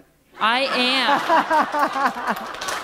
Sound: laughter

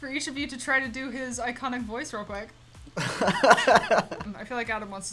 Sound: laughs

